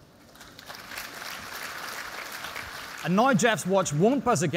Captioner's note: applause